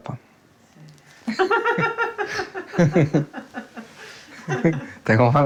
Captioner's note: woman laughs